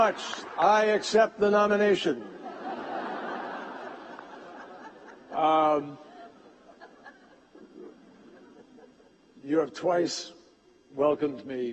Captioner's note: laughter